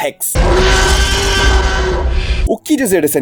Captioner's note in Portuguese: rugido